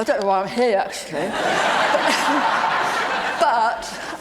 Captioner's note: audience laugh